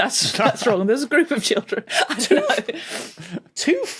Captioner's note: chuckles; giggles